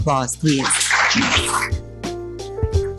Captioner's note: mellow music; all applauding